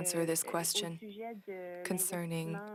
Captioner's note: speaking French